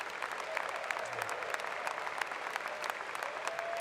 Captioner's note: applause